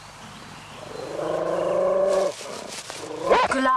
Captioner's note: growls, barks